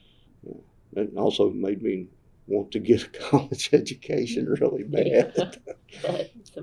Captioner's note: laughter